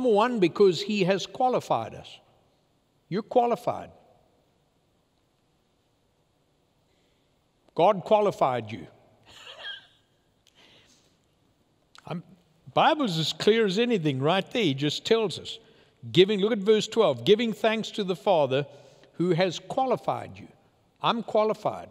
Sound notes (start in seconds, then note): 9.3 laughing